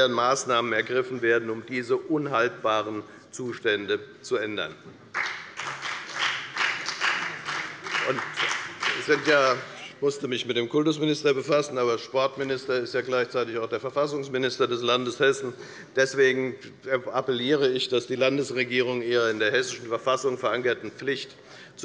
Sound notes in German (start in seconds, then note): 5.1 Beifall bei der FDP